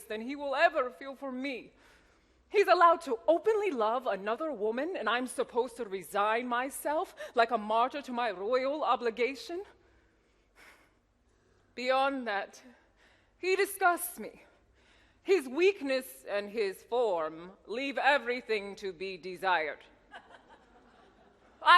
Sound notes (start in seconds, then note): 10.7 sighs; 20.2 audience laughs